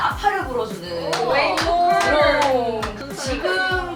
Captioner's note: clap